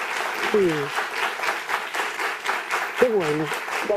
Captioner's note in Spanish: aplausos